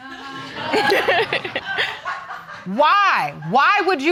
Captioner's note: laughing